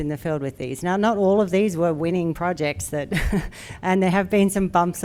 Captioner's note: chuckles